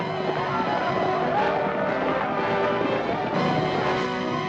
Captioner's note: war cries